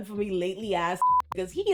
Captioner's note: beep